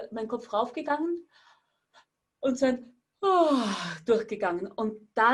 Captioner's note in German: Seufzen